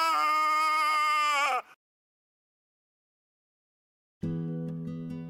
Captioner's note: screaming